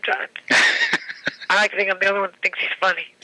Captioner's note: laughing